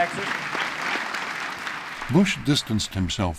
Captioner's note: applause